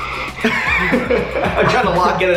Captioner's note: laughing